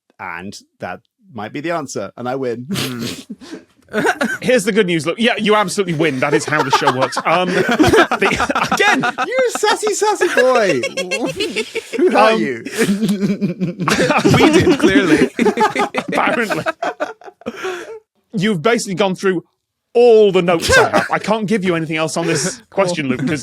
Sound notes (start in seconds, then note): 2.7 crack up; 7.3 guests laughing; 10.8 cackles